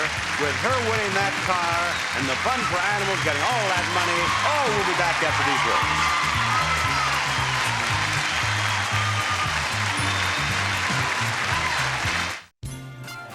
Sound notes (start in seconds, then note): 5.5 audience applauding; 5.5 upbeat music